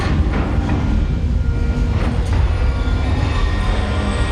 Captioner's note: alarm beeping